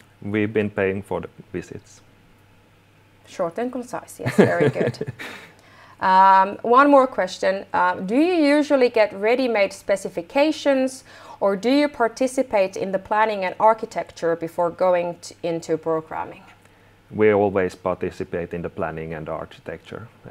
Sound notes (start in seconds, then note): 4.2 laughing